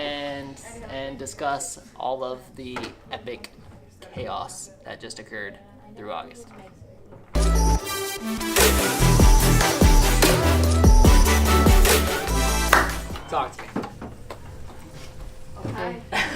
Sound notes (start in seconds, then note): 7.3 upbeat music; 12.7 clapping